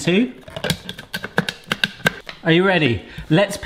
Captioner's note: bowl lid clicking